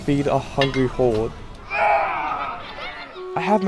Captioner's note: grunts